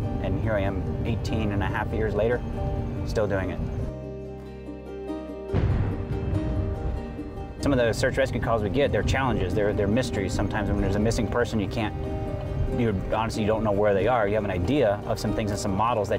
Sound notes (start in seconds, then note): 3.9 upbeat music; 5.5 thunder booming